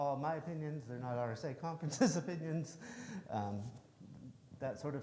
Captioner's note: chuckles